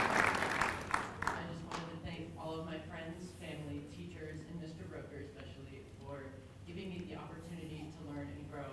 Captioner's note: applause